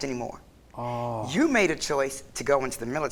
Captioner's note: sighing